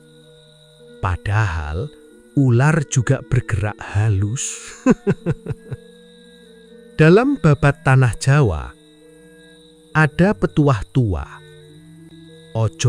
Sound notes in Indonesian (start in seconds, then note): 4.7 tertawa